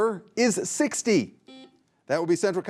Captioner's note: buzzer buzzing